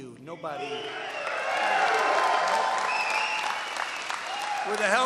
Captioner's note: applause